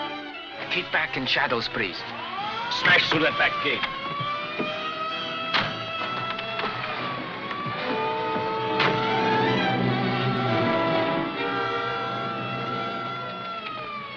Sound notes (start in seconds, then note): 4.7 siren wailing